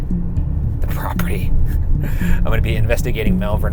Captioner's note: laughs